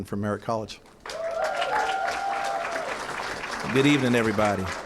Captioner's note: cheering & applause